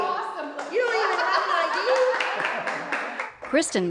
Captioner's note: laugh